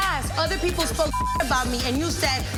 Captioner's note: beep